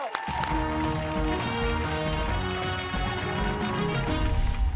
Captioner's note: cheers and applause